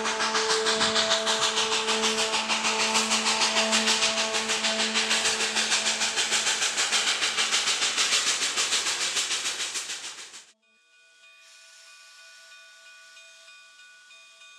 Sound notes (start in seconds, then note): 11.4 bell dinging